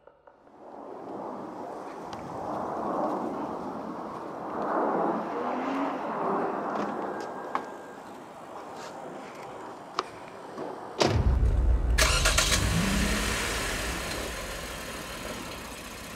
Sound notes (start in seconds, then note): 1.0 airplane flying over; 11.0 door slammed